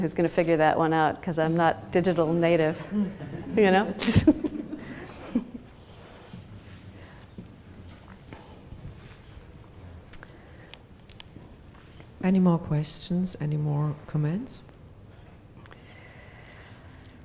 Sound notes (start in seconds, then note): 4.2 laughs